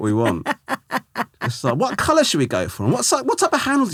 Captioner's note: laughing